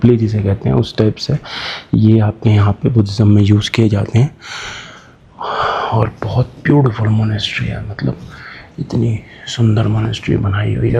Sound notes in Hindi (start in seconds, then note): 4.4 अचानक ज़ोर से सांस लेने की आवाज़; 4.4 गहरी सांस लेने की आवाज़